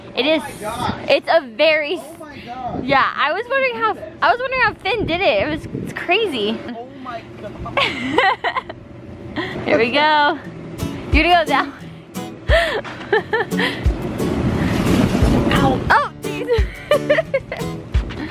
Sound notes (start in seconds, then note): 12.4 laughing